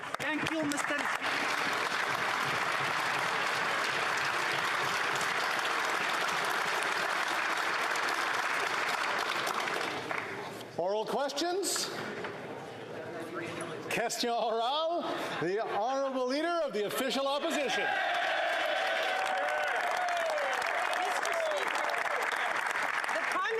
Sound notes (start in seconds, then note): 5.5 applause